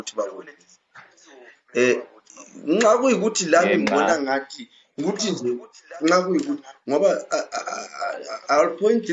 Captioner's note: stammers